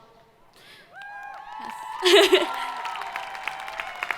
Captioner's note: crowd cheering